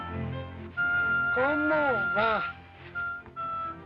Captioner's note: man speaks Spanish; Ramon speaks Spanish